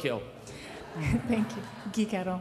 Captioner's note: crowd laughing